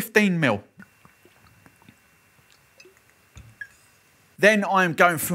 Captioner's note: pouring liquid